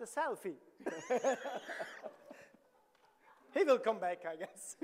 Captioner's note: laughs; audience laughing